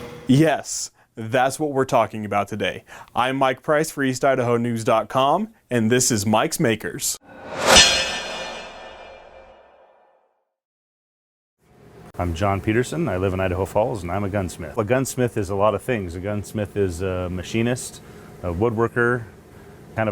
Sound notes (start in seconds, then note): 7.2 whoosh